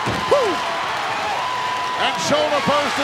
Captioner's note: audience cheering